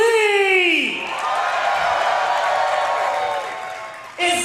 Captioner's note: audience cheers